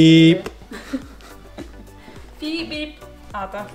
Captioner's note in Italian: risata